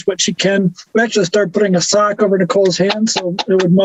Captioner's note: claps